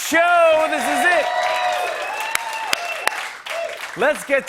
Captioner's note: cheers and applause